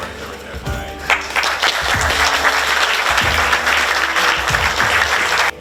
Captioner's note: audience clapping